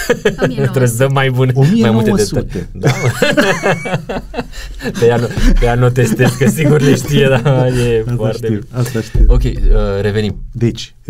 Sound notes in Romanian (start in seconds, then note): 2.8 Râsete